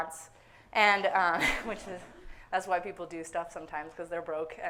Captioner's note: chuckles